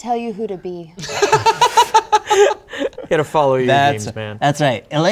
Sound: laughter

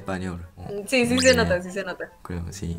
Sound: Spanish

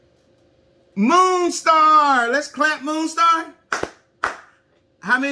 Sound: hands clap

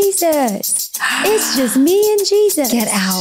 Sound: gasps

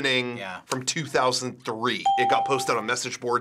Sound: ding

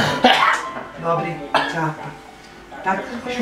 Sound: coughing

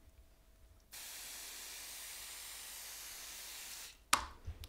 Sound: sprayer fizzing

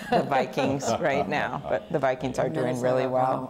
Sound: laughter

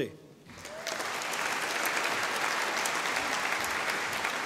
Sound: audience applauding

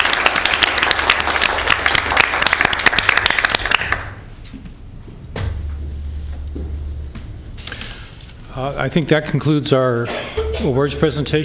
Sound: applause

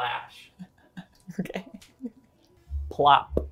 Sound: laughs

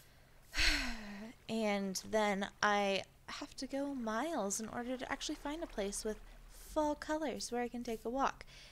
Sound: sigh

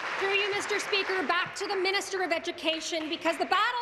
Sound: applause

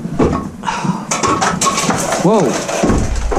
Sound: metallic clanking

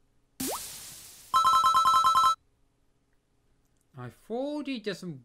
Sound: tuna collecting sound

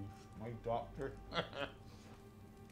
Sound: laughs

